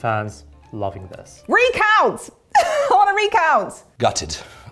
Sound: laughs

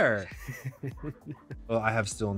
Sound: giggles

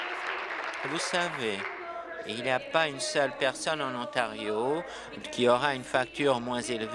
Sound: continued applause; applause

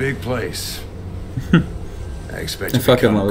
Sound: chuckle

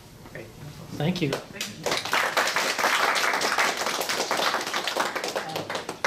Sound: clapping

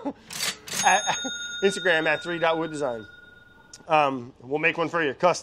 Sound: bell rings

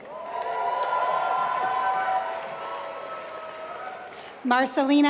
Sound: applause

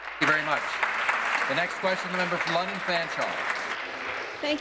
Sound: applause

